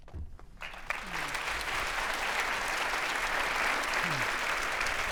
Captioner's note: audience applauding